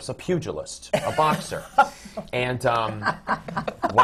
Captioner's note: laughter from the panel